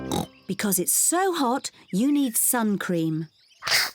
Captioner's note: oinks